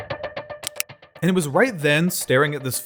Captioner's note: click